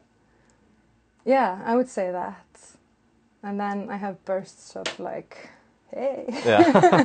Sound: laughing

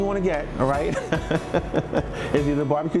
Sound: laughs

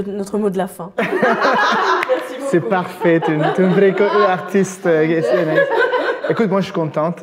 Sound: laughs

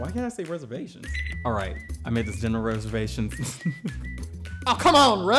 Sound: laughing

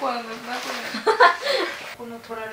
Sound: laughter

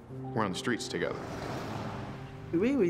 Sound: traffic whirring

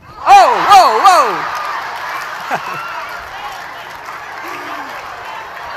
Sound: ohhh ... audience laughter

